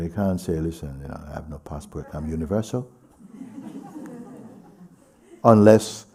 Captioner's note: laughter